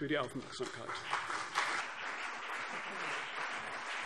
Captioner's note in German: Beifall CDU und BÜNDNIS 90/DIE GRÜNEN